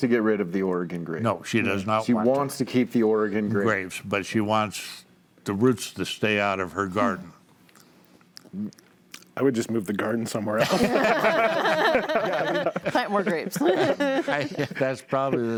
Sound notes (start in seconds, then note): 12.6 panels laughing